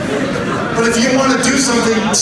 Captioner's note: audience laughs